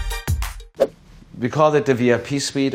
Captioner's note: upbeat music; floor plan whooshes